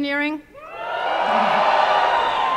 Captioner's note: cheering